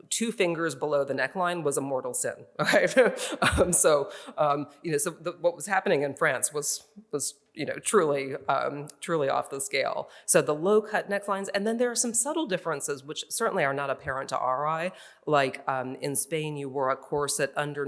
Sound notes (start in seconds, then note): 2.6 laughs